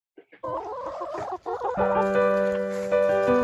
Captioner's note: hens crooning